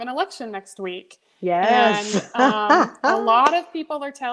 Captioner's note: laughs